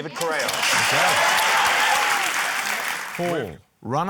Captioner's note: cheering, applause